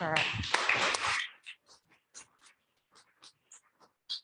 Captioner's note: adience applauding